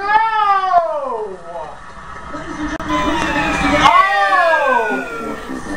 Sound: bankrupt whistle and losing horns

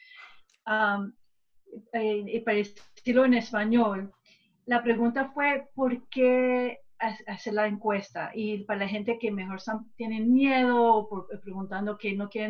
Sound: speaking spanish

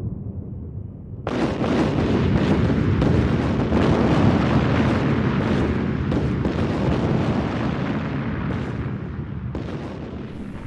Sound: sounds of war

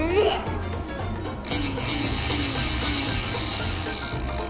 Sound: crank whirs

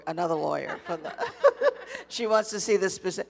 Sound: audience and panelists laughing

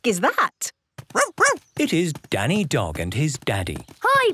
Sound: barking

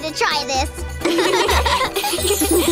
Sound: laughing

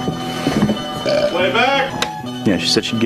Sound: burps

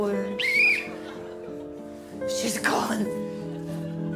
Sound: whistles

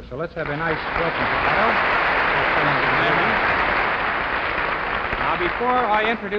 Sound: audience clapping

